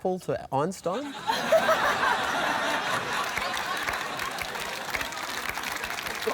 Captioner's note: laughter